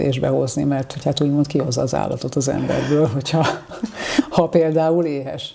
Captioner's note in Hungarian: nevetés